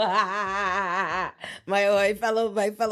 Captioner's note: laughs